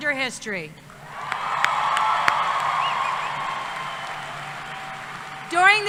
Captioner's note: cheering